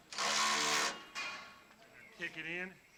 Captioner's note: drill whirring